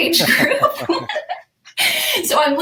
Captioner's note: both laughing